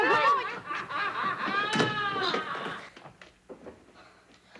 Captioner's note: Sir Simon laughing